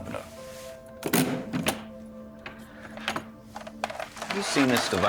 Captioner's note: case clicking